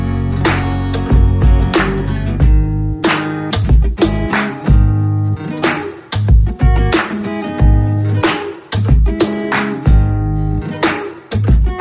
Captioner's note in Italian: Applauso